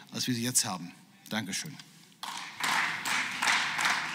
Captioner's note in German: Beifall